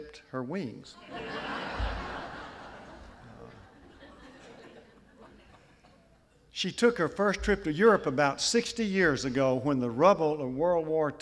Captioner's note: laughter